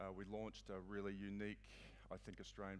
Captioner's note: none